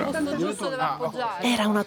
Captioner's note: archeologic chattering